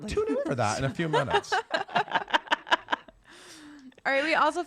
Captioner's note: laughter